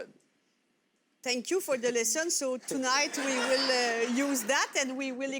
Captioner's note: audience laughter